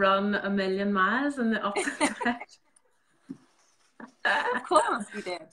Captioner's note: both laughing